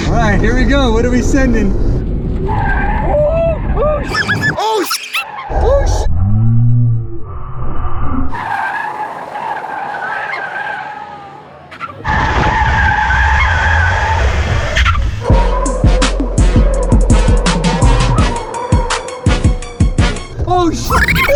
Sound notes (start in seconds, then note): 8.9 tires screech; 15.3 trap music